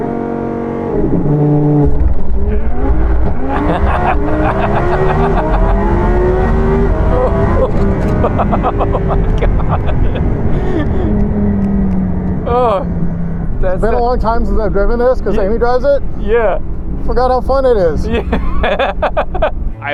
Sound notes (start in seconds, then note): 6.9 laughing